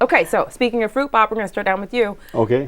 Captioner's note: laughing